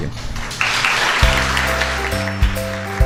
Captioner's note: applause